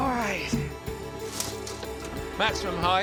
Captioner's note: ironing board clicking